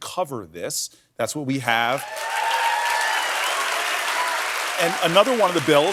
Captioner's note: cheers and applause